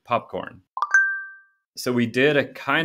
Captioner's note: notification sound